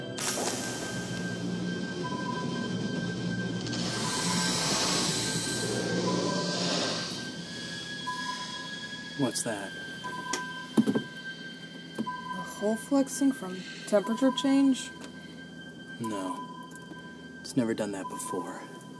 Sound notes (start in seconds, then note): 0.3 ominous music; 3.8 air hissing